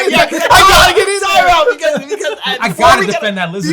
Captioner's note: group laughs